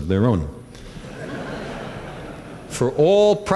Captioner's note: laughter